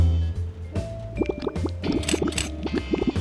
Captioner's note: bubbling